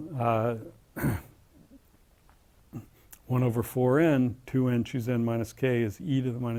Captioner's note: cough